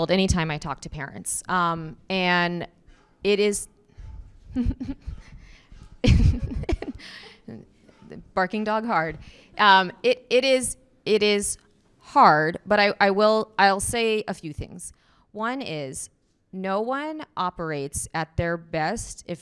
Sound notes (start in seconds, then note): 4.0 chuckles; 4.0 dog barking